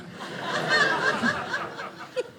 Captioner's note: audience laughing